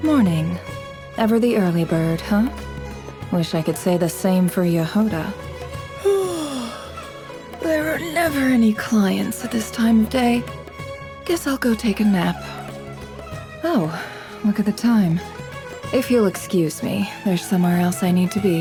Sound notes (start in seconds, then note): 6.0 yawn